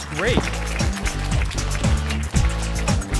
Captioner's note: applause